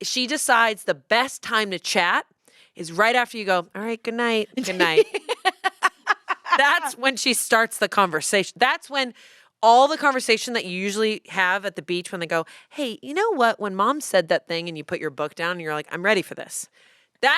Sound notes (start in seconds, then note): 4.5 laughs